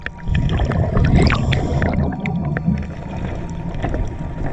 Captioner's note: water gurgling